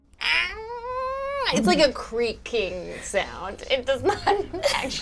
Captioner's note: imitates creaking